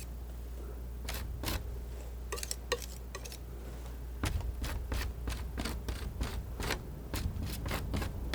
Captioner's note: scratching